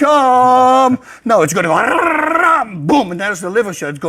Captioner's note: screams